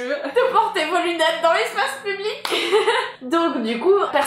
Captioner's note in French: rire général